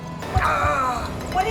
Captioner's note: grunts